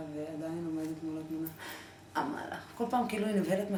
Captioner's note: gasp